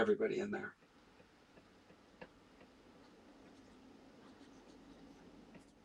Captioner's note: silence